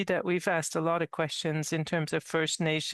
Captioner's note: speaking French